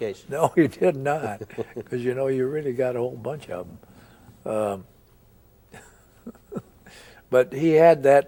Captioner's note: both chuckle; chuckles